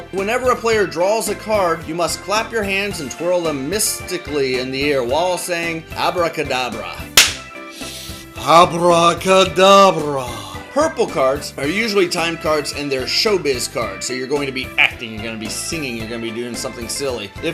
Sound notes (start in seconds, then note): 7.2 claps